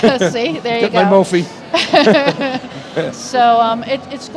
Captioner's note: laughter